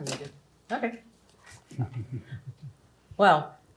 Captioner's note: chuckling